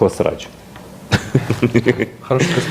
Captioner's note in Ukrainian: Айдер Муждабаєв гигоче